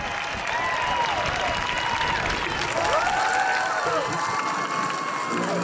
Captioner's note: crowd clapping and cheering